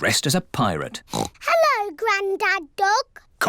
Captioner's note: oinks